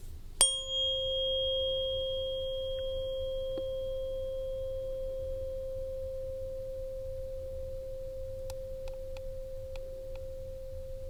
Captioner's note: bell Ring